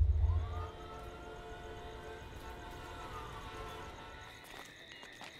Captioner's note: Siren; Beeping sound